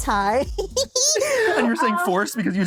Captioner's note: giggles